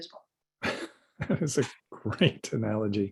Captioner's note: chuckles